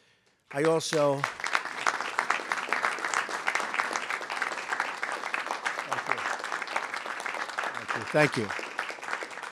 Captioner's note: applause